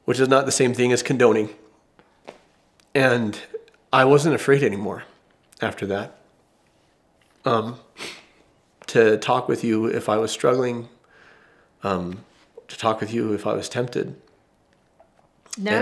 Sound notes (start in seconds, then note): 5.6 voice breaks